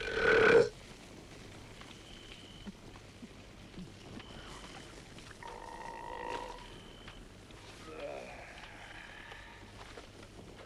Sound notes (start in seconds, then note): 0.0 Torente belches; 6.1 Torente belches; 7.8 Torente sighs